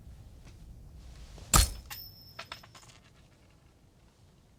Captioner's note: hammer hit